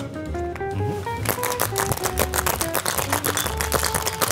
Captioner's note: drink sloshing